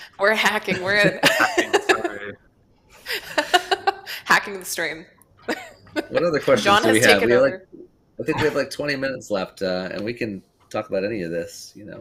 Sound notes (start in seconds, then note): 0.6 laughs; 3.7 laughs